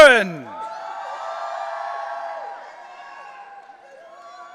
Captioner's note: audience cheering